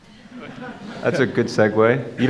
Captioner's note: crowd laughs